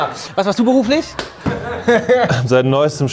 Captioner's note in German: Lachen